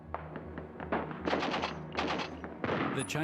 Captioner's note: artillery fire